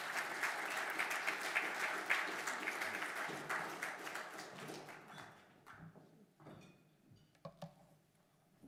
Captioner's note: applause